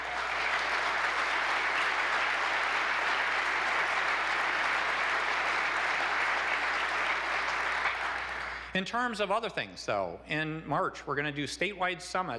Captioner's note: applause